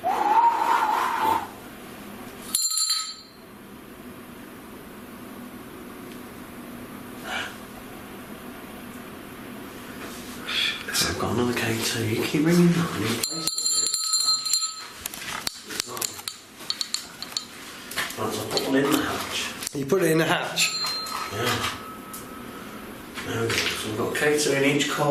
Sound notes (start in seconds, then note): 0.1 blowing sound; 2.5 bell rings; 13.2 bell rings